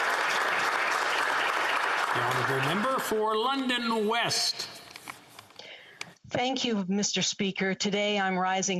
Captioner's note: applause